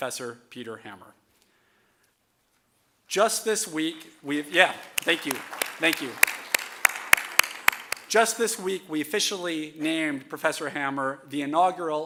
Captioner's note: applause